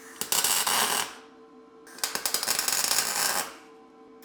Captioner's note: metal sizzling